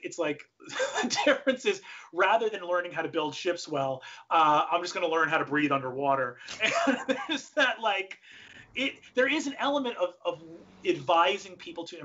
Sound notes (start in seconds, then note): 6.5 laughs